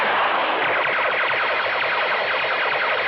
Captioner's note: bullets whistling